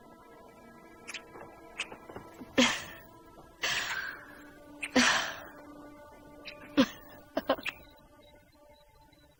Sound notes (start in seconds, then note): 5.8 kissing continues